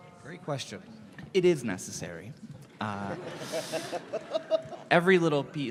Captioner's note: giggling away